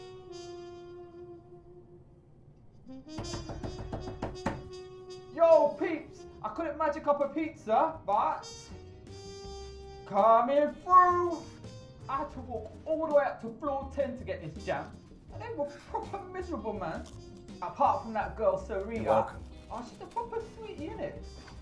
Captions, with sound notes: (sultry music) (banging) - Yo, peeps, I couldn't magic up a pizza, but... coming through! I had to walk all the way up to floor 10 to get this jam. They were proper miserable, man. Apart from that girl Serena. - You're welcome. - She's a proper sweetie, innit?